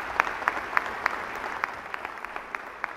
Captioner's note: applause